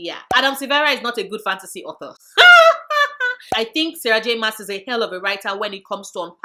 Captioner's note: laughs